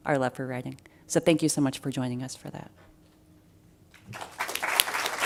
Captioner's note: applause